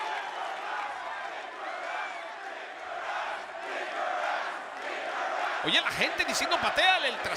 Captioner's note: applause